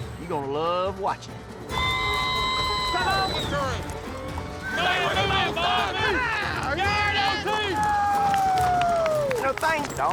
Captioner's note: crowd shouting, cheering